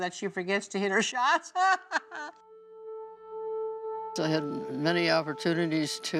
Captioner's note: laughing